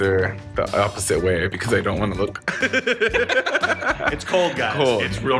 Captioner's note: laughs